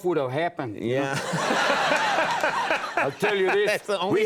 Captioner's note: audience and Conan laugh